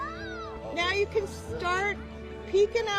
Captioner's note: cheers and Applause